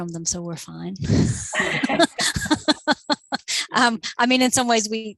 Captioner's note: laughter